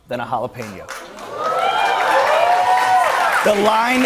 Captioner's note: cheers and applause